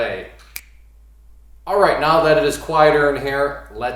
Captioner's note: snaps